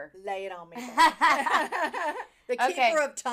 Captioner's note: laughing